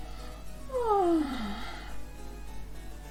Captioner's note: yawn